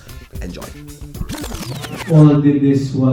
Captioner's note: vinyl record rewinding